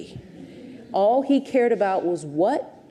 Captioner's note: audience chuckles